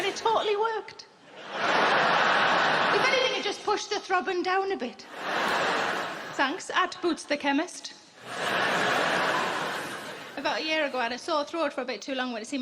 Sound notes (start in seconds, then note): 1.2 crowd laughing; 5.0 crowd laughing; 8.2 crowd laughing